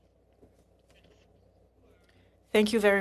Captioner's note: speaking French